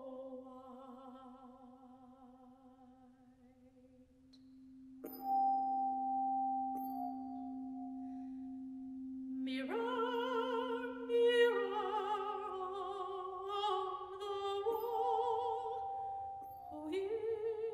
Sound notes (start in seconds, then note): none